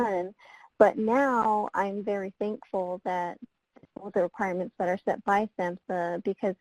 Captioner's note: voice muffled